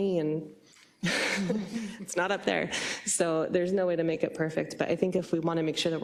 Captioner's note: laugh